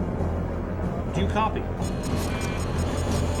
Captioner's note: alarm continues